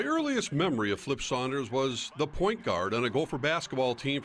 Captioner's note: cheers & applause